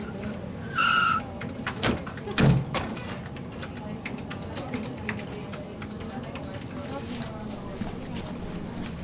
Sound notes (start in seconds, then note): 0.6 tires screeching; 0.7 car doors closing